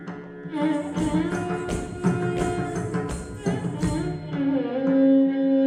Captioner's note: ankle bells ringing; traditional South India music